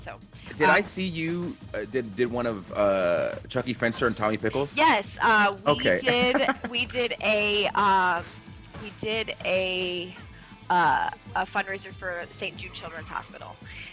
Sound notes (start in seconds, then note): 5.7 laugh